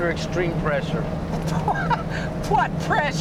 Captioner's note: laughing